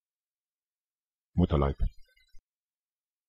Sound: fast Pronunciation

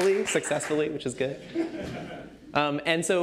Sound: laughter

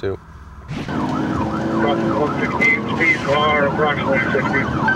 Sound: sirens

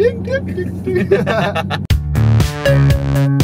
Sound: laughter

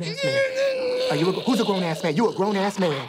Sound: crying

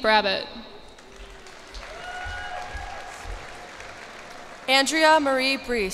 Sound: cheers and applause

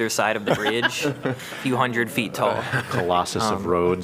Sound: laughter

